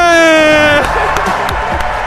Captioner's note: applause; laughs